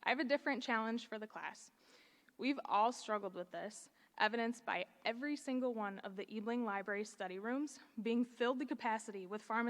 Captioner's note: none